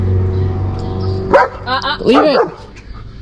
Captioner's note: Moxy barks again